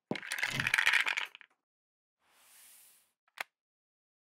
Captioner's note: chips falling